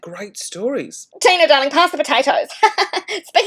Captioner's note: laughs